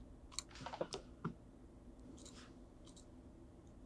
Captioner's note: mouse clicking